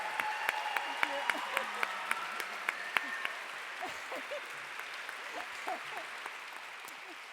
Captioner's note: applause